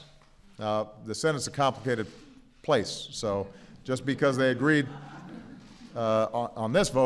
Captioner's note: laughter